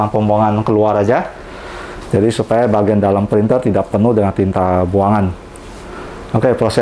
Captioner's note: inhale; inhale